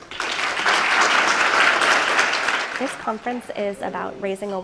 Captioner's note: applause